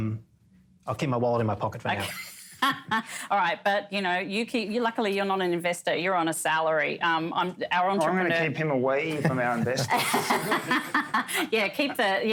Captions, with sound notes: And so, I'll keep my wallet in my pocket for now. [laughs] - All right. But you know, you keep, you luckily you're not an investor, you're on a salary. Our entrepreneur - I'm going to keep him away from our investments. - [laughter]